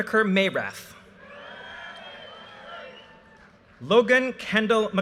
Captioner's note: audience cheers and applause